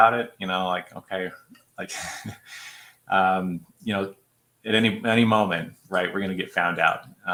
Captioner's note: laughter